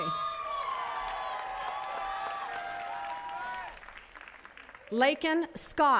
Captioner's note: attendees cheering and clapping